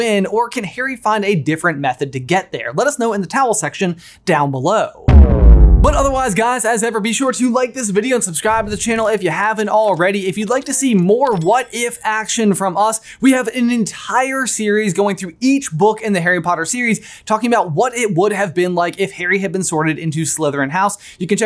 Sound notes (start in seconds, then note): 5.0 logo thuds